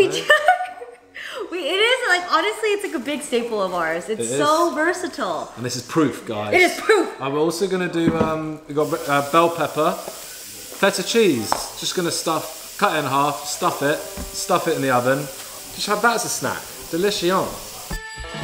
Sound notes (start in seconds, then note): 0.0 laughs